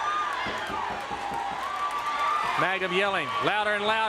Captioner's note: crowd cheering